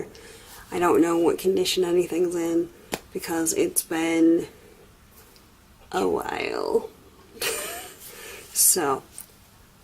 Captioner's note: laughs